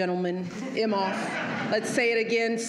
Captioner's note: laughter